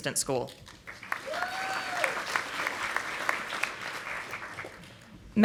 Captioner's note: audience applauding